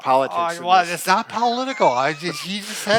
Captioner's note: laughs